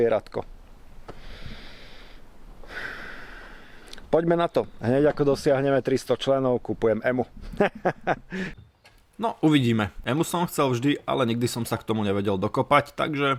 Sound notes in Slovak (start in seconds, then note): 2.6 vzdychanie; 8.4 smiech